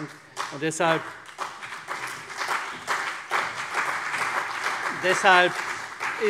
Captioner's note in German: Beifall CDU und vereinzelt BÜNDNIS 90/DIE GRÜNEN